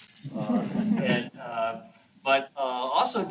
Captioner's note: chuckling